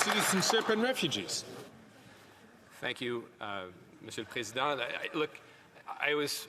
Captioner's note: some Applause